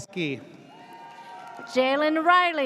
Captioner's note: audience cheers